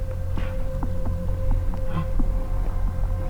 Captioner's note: bull grunts